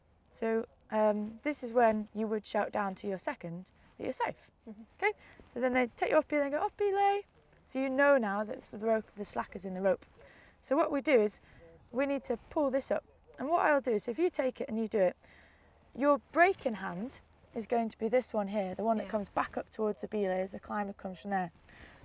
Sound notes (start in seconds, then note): 6.4 mimics shouting